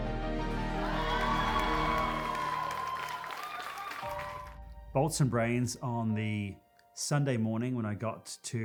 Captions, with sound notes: [all cheering] Bolts & Brains, on the Sunday morning